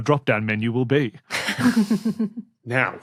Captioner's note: guests snickering